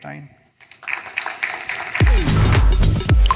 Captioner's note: applause